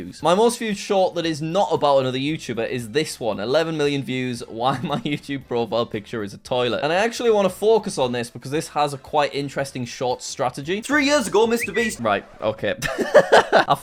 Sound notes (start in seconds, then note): 10.8 laughing; 10.8 tweet sound